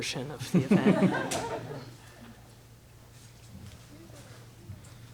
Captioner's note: laughter